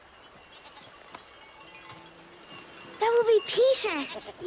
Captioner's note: goats bleating